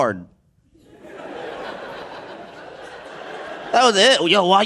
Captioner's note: audience laughing